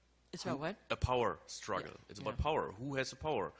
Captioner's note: voiceover